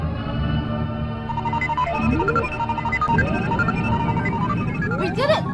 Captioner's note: machines coming to life, whirring; beeping